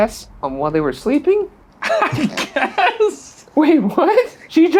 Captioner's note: laughing